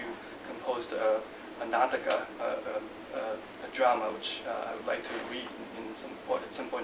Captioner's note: non-english speech